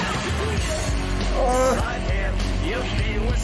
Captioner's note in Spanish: se queja